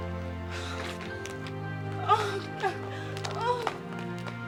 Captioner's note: crying